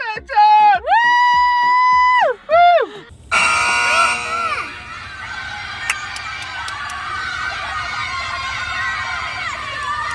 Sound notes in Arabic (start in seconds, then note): 0.9 صياح; 3.3 أصوات صفارة; 5.6 هتاف متحمس